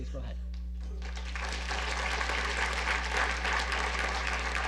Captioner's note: audience applause